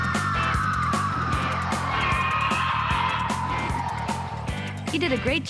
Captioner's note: screeching